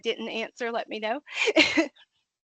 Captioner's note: laughing